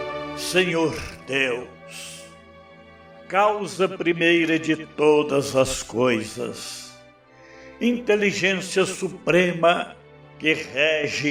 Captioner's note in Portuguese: suspirando